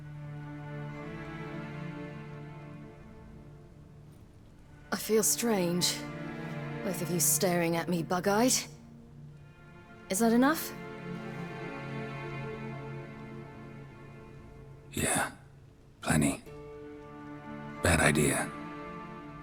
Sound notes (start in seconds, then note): 5.0 in Ciri's voice